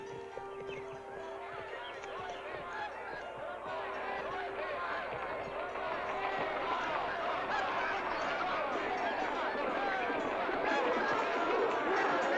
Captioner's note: soft piano music; jovial crowd commotion